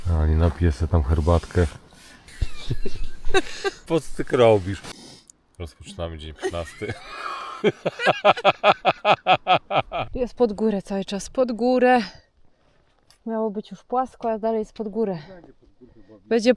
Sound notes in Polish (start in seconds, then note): 8.9 śmiech